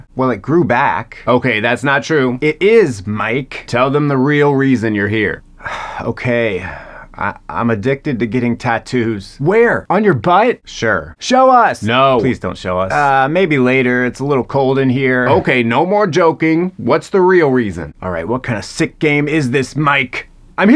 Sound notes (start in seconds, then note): 5.6 sighs